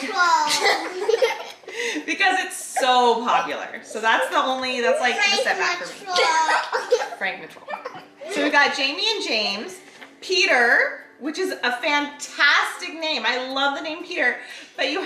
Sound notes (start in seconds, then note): 1.0 giggles